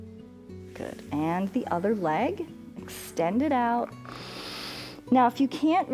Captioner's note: inhales